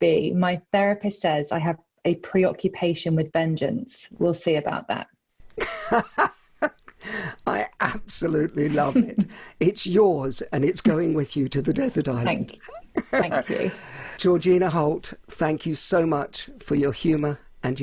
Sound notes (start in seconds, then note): 5.6 laughs loudly; 12.7 laughs